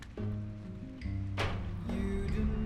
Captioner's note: door banging